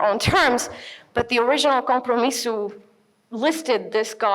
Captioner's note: speaks in foreign language